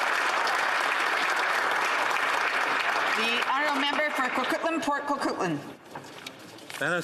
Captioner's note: some Applause